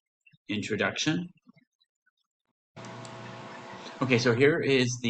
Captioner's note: humming-sound